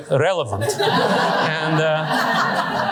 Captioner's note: laughter